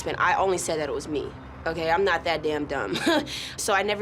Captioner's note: laughs